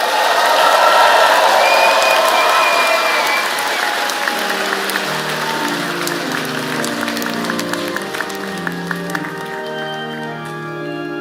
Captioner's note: cheers and Applause